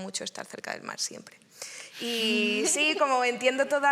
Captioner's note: laughs